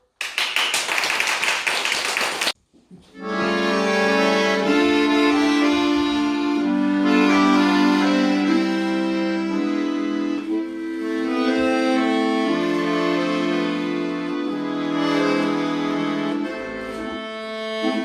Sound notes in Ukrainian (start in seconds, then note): 0.0 оплески